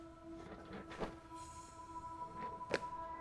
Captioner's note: sighs